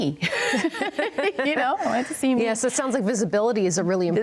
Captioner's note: laughs